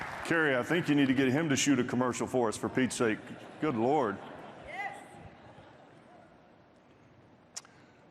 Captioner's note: applause